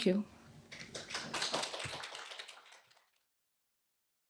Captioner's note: audience applauds